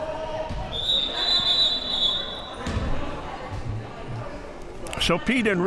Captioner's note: whistle blowing